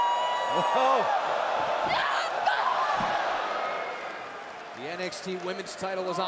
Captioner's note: crowd cheering